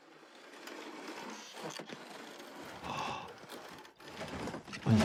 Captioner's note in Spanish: zumbido de cama